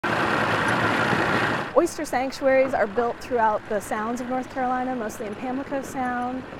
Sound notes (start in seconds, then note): 0.0 heavy machinery engines buzzing